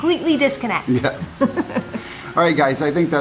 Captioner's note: laughing